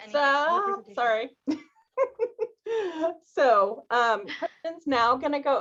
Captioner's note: laughter